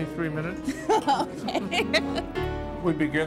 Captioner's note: laughs